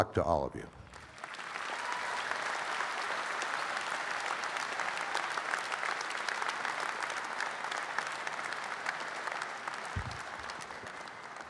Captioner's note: audience applauding